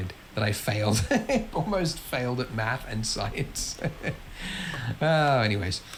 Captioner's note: laughs